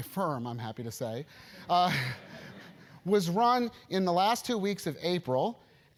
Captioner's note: laugh